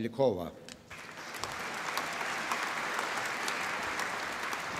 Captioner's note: applause